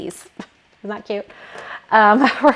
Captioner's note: laughing